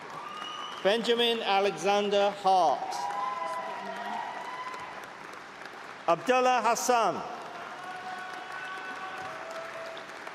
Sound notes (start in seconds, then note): 4.2 cheering; 8.7 applause